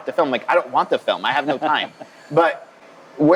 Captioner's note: laughs